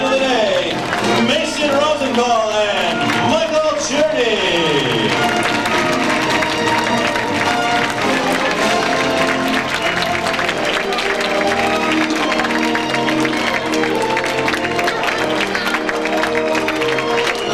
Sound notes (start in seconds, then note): 3.7 clapping